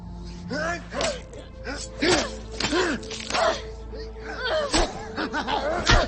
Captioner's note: knife slicing; LaFleur laughing